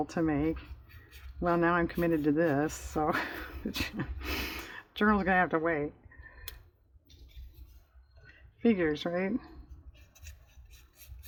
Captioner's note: laughs